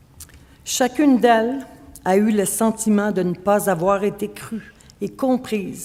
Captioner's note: speaking French